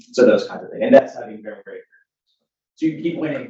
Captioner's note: speaking faintly